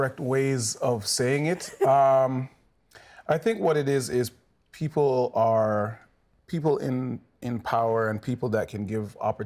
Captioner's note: chuckles